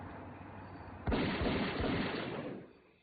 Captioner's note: three gunshots